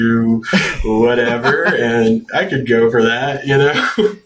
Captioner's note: laughs